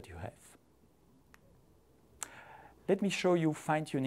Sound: computer mouse clicks

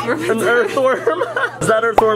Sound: laughs

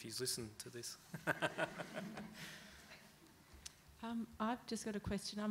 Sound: laughs

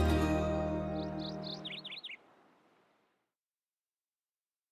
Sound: bird chirping

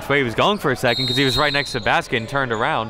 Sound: bell dings

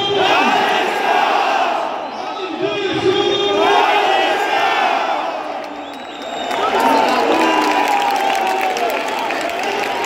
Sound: clap

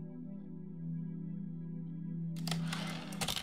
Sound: typewriter return slide

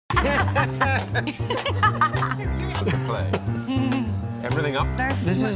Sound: laughter

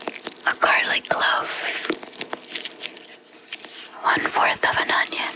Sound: clove crackling

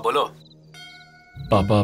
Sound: bell tinkling

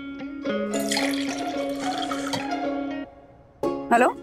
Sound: tea pouring sound

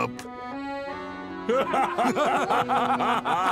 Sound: laughing

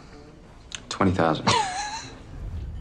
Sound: man laughing

